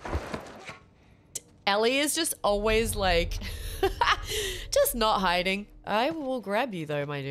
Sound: laugh

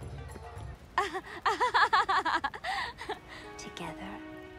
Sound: laughing

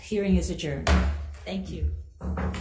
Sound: gavel bangs

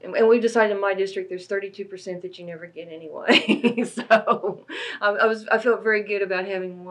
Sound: laughs

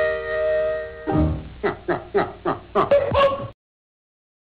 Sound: man laughing

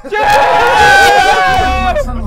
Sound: all laughing and screaming

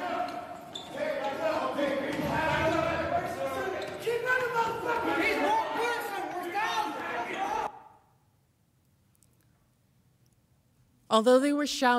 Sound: yelling

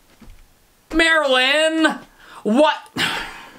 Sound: sigh

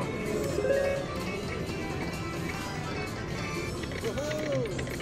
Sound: machine beeps

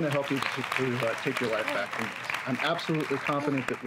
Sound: applauding

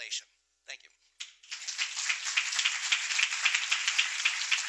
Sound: applause

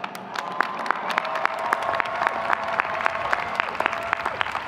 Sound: audience clapping

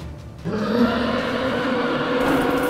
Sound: roar

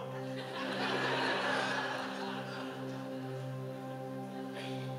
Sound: audience laughing

